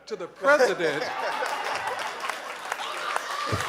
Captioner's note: audience cheers and applauds